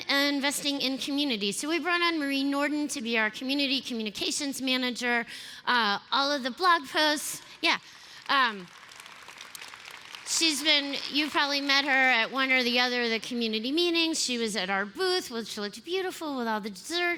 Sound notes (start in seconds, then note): 7.9 applause